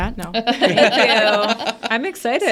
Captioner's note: all laughing